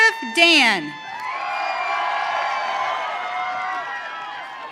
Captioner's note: audience cheering